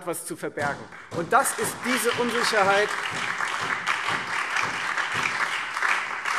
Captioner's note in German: Beifall Freie Demokraten, SPD und DIE LINKE